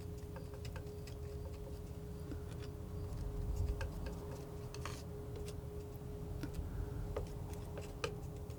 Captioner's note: tapping